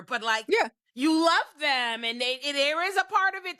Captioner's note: none